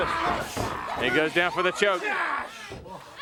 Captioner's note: crowd chatter